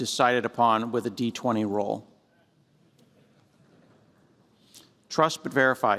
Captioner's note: laughter